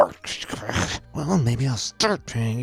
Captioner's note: narrator grunting